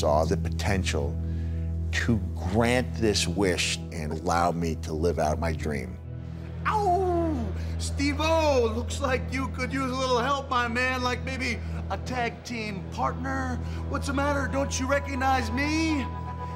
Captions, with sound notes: the potential to grant this wish and allow me to live out my dream. [howls] Steve-o, looks like you could use a little help, my man. Like, maybe a tag team partner. What's the matter? Don't you recognize me?